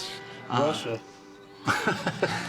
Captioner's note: laughs